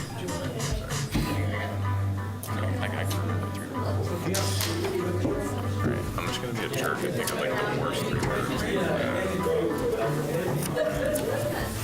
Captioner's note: bustling conversation